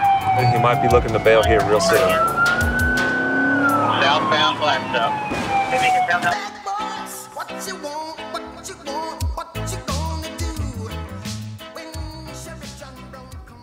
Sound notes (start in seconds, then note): 2.2 siren